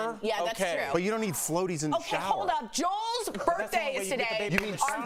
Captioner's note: laughter